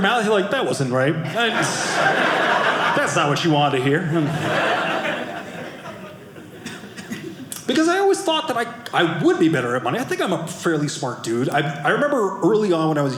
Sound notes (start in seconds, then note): 3.9 audience laughing